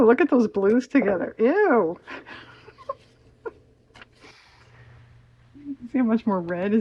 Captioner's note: laughs